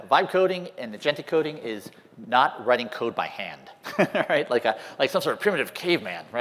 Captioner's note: laughter